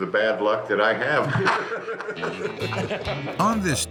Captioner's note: laughs